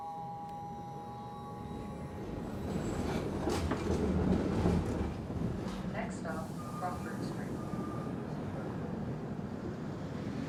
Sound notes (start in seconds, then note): 4.1 female voice on PA